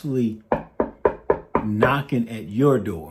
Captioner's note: gentle knocking